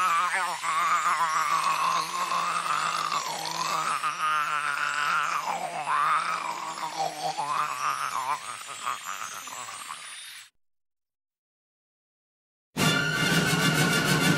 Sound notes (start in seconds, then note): 1.9 barfing; 4.2 barfing; 6.2 barfing; 7.8 barfing; 10.1 barfing